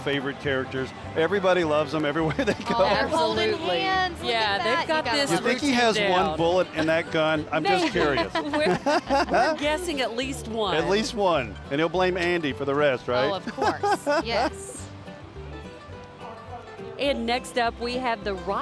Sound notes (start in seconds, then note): 2.3 laughing; 10.4 laughing; 15.3 laughing; 16.7 country christmas music